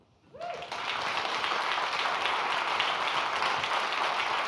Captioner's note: audience applauding